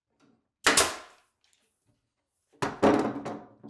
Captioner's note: nailgun firing